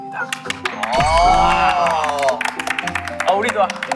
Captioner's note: applaud